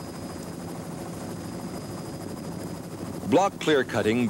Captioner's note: helicopter blades whirring